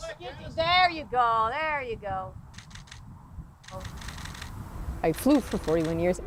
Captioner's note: camera shutter clicking